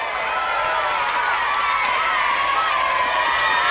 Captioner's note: crowd cheering and clapping